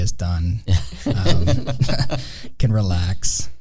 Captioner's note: all laughing